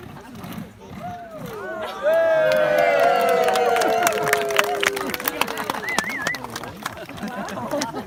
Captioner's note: sound of clapping and cheering